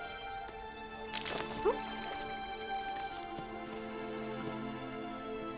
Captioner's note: branch snapping